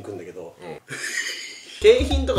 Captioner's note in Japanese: 笑い声